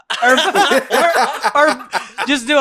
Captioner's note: laughs